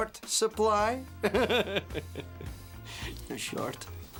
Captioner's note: chuckling